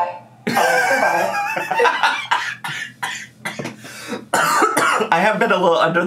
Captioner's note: laughs and coughs